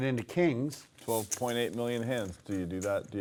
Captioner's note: voiceover